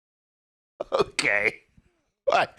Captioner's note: laughing